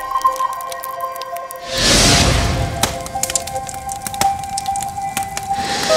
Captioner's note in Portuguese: Crepitação